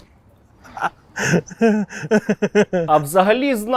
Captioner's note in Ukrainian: сміх